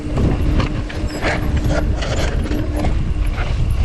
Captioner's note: dirt rustling